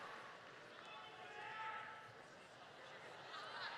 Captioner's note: applause